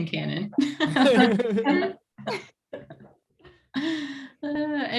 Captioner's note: group laughing